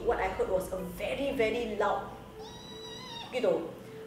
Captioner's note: screeching sound